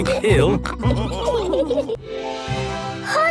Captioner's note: all laughing